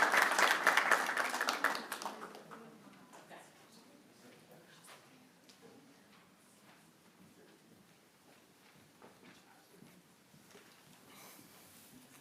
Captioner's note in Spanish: aplausos